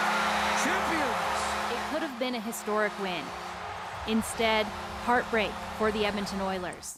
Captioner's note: applause